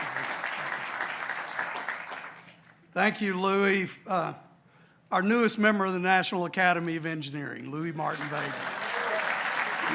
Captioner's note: applause